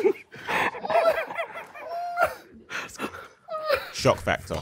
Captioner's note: group quietly laughing